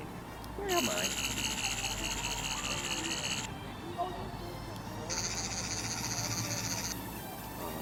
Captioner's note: Sonic screwdriver buzzing